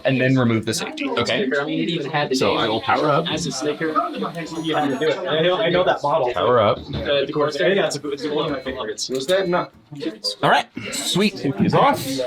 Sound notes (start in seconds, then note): 5.0 robot beeping; 7.8 participants chattering indistinctly